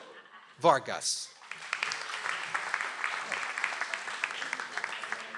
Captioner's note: audience applauds